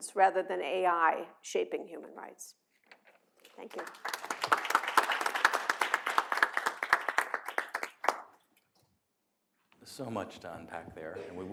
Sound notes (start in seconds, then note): 6.8 applause